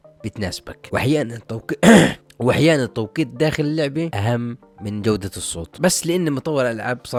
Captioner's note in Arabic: تنحنُح